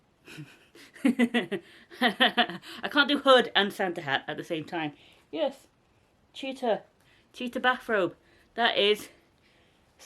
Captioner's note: laughter